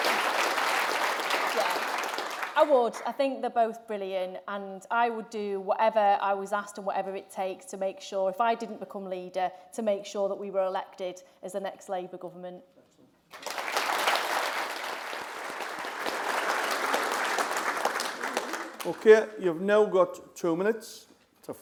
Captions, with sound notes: life, but I would be happy to serve under any of their leaderships and I know you as members would expect all Labour Party MPs and members to do the same thing. (APPLAUSE) Because we don't agree all the time. Our visions might be different and different opinions on different things that have been discussed today but ultimately that's a good thing for the Labour Party.